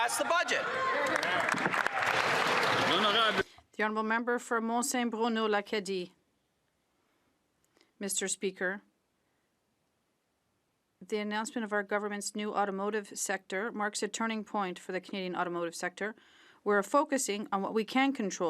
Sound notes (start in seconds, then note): 6.7 speaking French